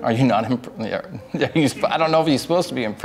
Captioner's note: laughs